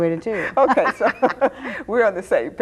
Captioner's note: both laughing